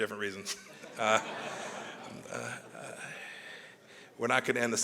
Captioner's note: laughter